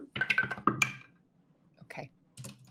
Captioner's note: dice roll